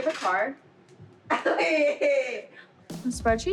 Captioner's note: laughs